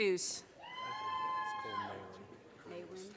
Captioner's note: audience cheers and applause